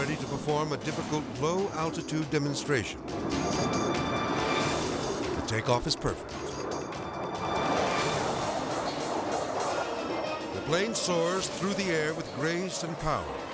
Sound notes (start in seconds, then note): 3.0 edgy dramatic music; 3.0 jet roaring; 7.1 edgy dramatic music